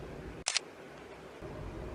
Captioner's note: shutter clicks